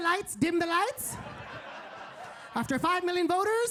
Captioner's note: audience laughing